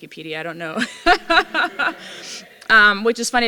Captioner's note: laughter